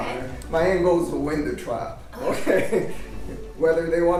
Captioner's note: laughs